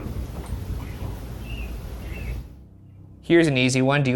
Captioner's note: light knocking